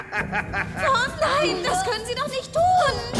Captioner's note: laughing